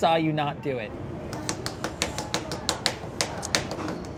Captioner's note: smacking